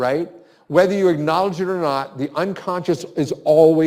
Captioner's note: none